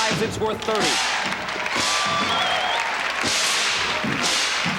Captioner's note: cheering and applause